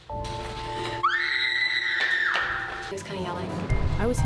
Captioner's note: screams